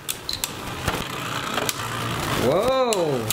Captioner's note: metal and plastic clanking